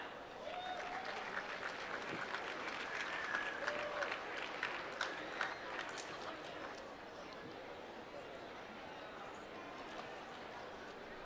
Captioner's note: applause